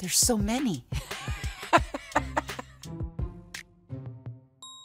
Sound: laughing

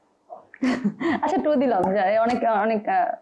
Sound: laughs

